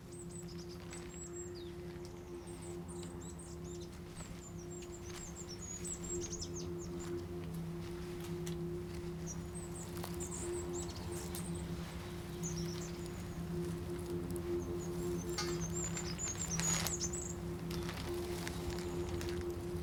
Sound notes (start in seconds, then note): 0.9 birds chirping; 7.5 suspenseful music